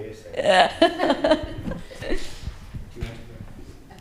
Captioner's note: laughs